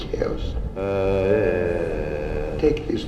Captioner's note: man groans